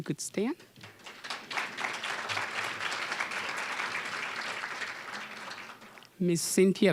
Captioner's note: applause